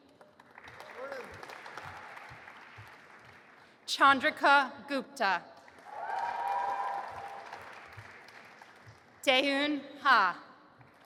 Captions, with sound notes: (audience applauding) Chandrika Gupta. (cheering) Taehoon Ha.